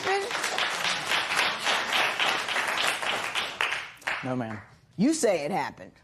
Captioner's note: applause